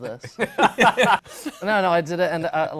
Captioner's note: laughter